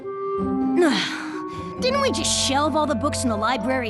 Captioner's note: Spike sighs